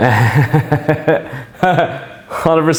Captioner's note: laughs